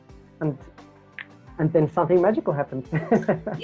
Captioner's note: snaps fingers; laughs